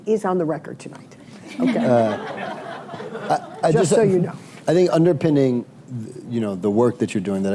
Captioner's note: laughter